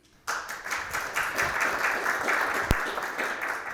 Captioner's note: audience applauds